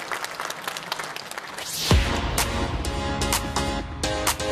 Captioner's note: applause